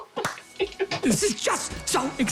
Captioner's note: laughing